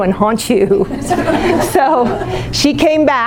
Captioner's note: laughing